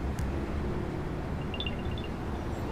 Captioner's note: chiming